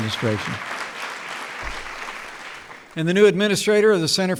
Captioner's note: applause